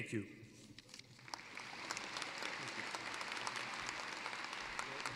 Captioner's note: applause